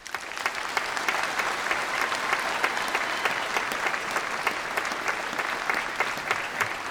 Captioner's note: applause